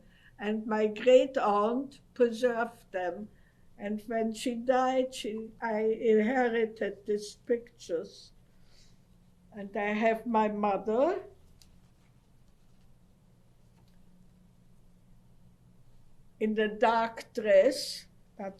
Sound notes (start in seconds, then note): 12.9 pauses for 6 seconds